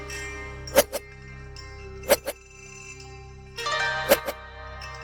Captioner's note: weapons swiping